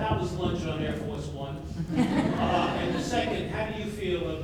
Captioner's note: audience laughs